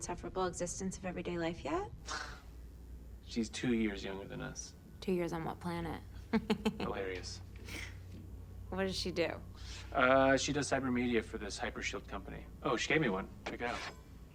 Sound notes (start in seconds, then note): 1.2 scoffs; 6.3 laughs